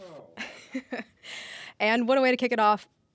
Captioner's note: chuckles